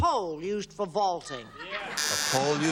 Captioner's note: buzzer